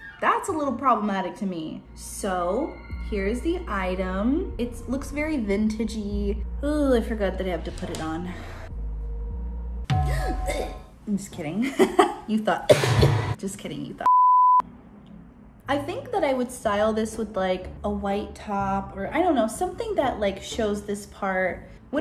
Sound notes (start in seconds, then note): 10.1 gasping; 11.8 chuckles; 12.6 coughing; 14.0 beep